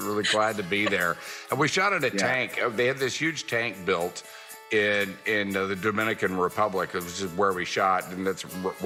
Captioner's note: laughter